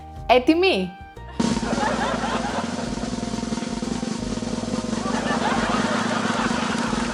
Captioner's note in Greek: γέλια